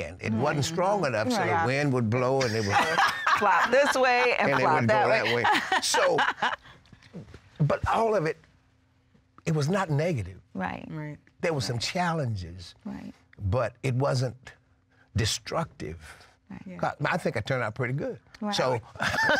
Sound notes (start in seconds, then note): 2.4 laughter